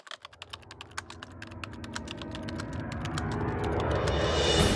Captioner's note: typing sounds